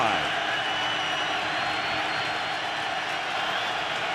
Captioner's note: crowd cheering